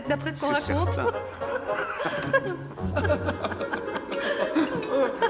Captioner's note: people laughing; dramatic music